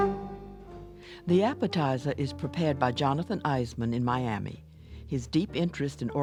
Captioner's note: jazz music; voiceover